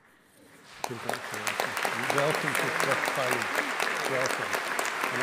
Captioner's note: audience applauding